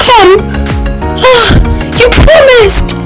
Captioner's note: moaning